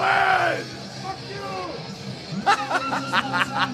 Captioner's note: crowd chants expletives